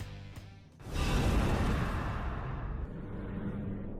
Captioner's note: woosh